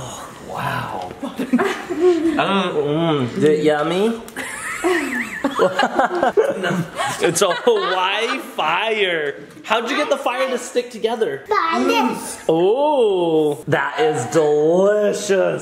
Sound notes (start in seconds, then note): 1.2 laughing; 4.4 everyone laughing